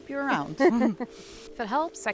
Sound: both laughing

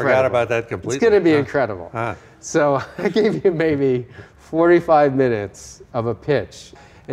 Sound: laughing

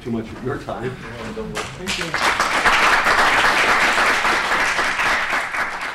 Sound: audience applauding

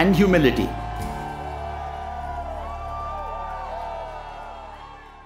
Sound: cheering

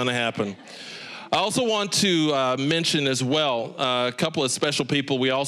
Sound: audience laughing

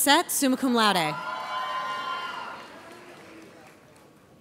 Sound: audience cheers

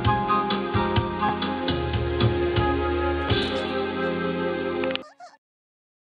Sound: song ends, coughing as he rides in the undercarriage

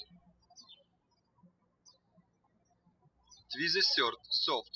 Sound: birds chirping

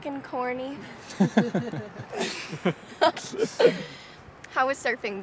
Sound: everyone laughing

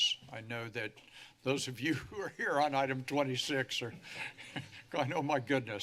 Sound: laugh

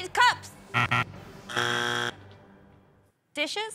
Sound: buzzer

